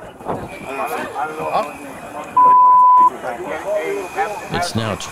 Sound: beeping

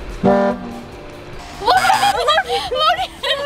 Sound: slow motion truck horn; truck horn; buzzer

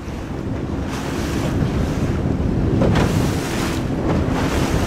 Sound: splashing

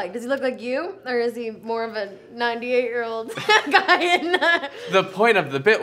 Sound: laughs

